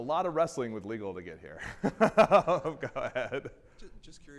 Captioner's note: laughing